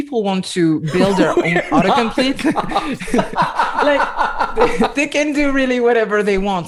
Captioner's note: laughter